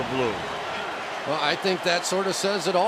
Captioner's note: cheering